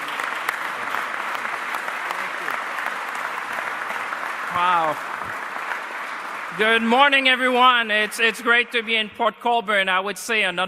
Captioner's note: applause